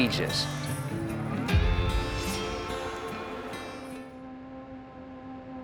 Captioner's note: placid music continues; blade whooshing; gentle music